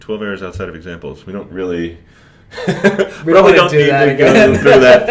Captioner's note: laughs